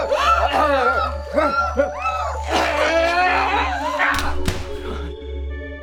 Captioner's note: Maude grunting; Jessie screaming